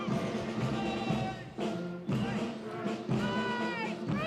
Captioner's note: Commandants de troupe crient des ordres